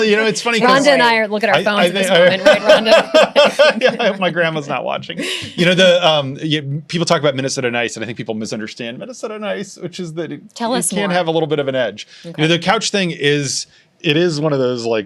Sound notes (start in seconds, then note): 5.2 laughs